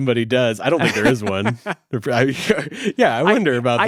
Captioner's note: laughs